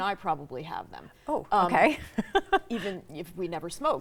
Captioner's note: chuckles